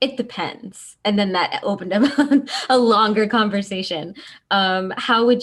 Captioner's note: laughs